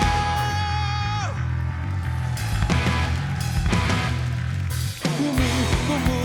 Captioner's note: applause